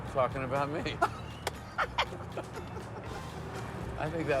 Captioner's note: laughs